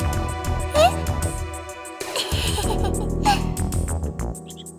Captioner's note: sheepish chuckle